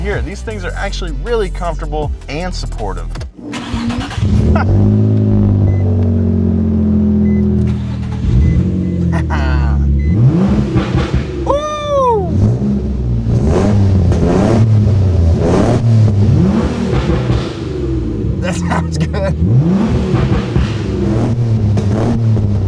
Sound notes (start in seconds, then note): 3.8 car engine roars; 4.4 chuckles; 9.0 laughs; 12.6 car engine roars; 19.7 car engine roars